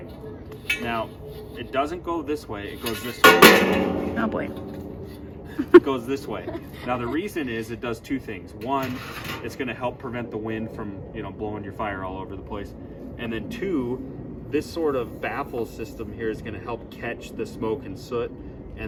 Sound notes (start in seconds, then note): 2.8 stove clangs; 5.5 laughs